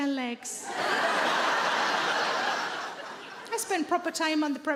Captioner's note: audience laughing